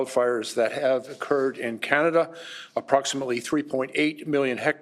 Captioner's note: speaking French